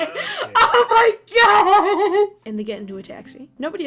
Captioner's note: while still laughing